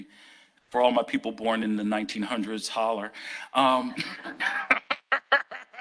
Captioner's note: laughs